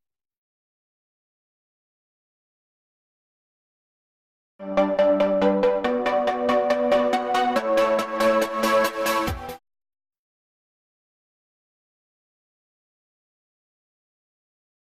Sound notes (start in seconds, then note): 0.0 silence; 4.6 electronica music plays; 10.1 silence